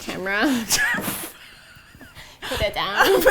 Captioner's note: both laugh